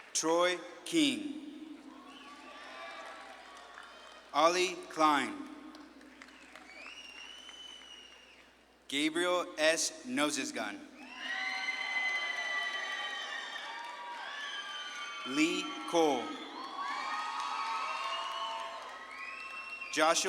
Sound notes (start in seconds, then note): 0.0 audience claps and cheers; 1.7 audience claps and cheers; 11.0 audience claps and cheers